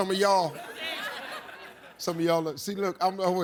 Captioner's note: audience laughs